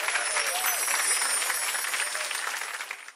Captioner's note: tinkling